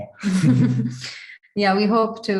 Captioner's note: laughs